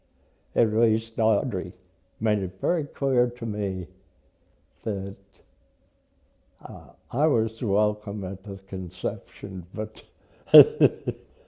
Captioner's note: laughs